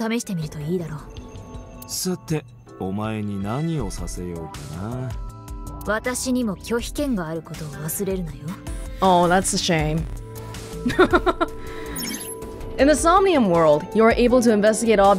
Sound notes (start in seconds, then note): 10.8 chuckles